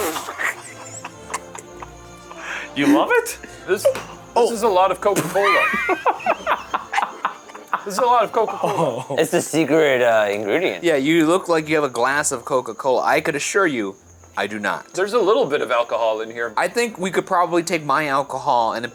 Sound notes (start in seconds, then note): 0.0 laughs; 5.1 all laughing